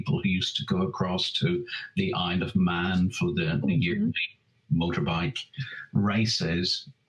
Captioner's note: audio skips